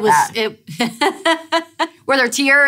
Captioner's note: laughs